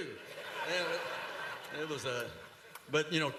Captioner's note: laughter